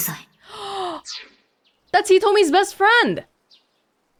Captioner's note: gasps